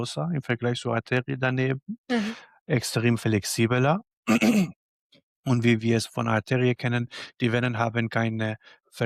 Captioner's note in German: räuspern